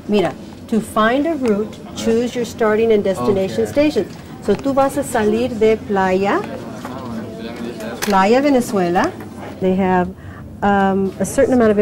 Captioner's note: instructing student in Spanish